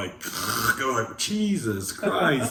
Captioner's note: munching loudly